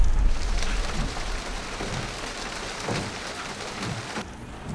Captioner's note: windshield wipers thumping